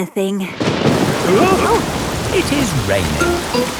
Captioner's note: thunderclap; parents gasp